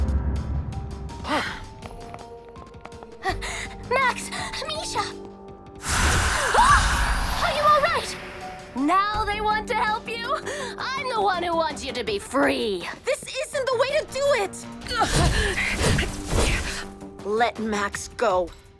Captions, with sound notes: [suspense music] Max! Mischa! [Borghild screams] Are you all right? Now they want to help you? I’m the one who wants you to be free! This isn’t the way to do it! [Yufon grunts] Let Max go!